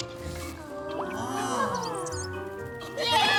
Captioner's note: bird chirps